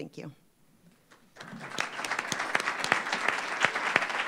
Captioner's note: applause